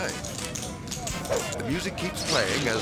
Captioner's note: tap shoes clicking